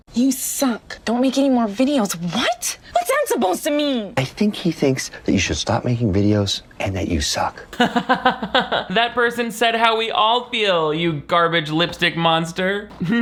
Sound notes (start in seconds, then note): 7.7 laughs